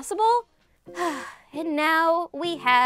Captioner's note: exhaling